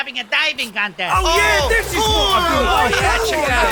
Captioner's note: excited exclamations